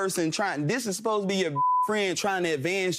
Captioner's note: beeping